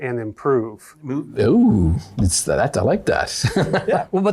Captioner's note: laughs